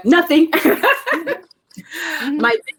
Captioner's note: laughing